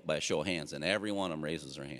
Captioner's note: none